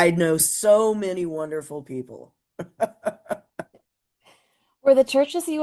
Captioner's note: laugh